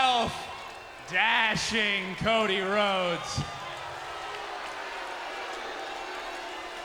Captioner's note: crowd cheering